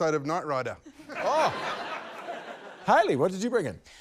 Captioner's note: laughter